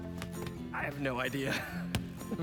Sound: laughing

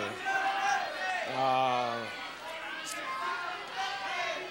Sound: audience yelling

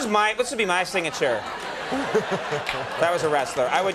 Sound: The Rock and audience laughing

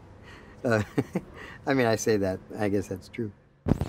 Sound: laughing

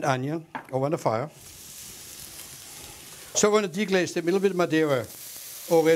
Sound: sizzling

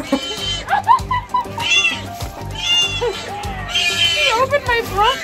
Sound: laughs; laughs and squeals; sea otter vocalizing; laughs, squeals, screams; sea otter vocalizing

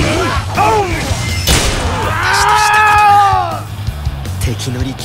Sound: dying scream

